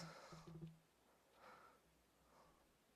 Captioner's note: speaking French